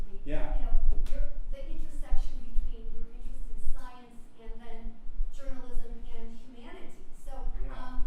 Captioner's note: voiceover